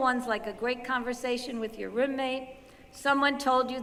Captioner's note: none